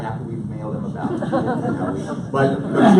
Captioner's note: audience laughs